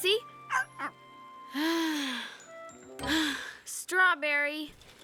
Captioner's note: sighs